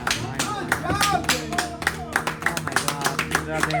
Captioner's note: clapping